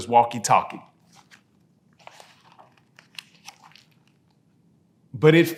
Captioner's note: pages rustling